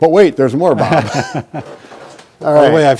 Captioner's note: laughs